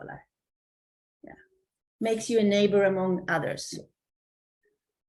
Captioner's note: Swedish